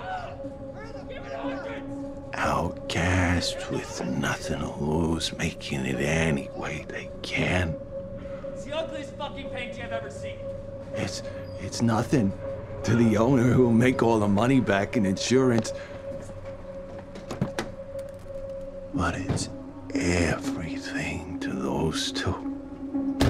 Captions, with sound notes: Outcasts with nothing to lose making it any way they can. That's the ugliest fucking painting I've ever seen. It's... It's nothing to the owner who will make all the money back in insurance. [Car door opens] [Gun drops to ground] But it's everything to those two.